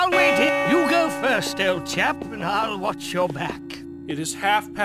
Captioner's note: bell chime